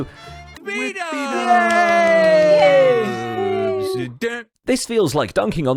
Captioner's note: Group cheering and clapping for Bdubs